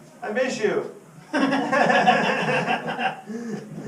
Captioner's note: everyone laughs